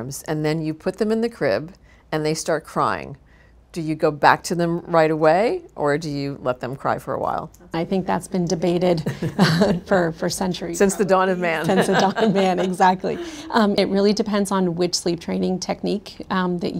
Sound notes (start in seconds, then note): 8.9 both women laugh; 10.9 laughs